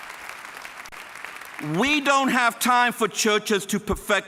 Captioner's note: applause